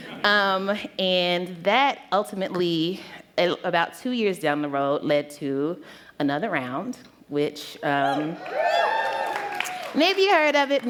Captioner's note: cheers